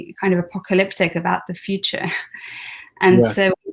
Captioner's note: chuckles